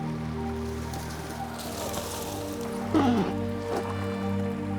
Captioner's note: reeds rustling